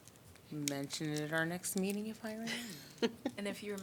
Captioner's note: laughter